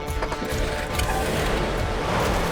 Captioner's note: engine starts